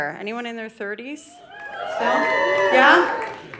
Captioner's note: audience cheering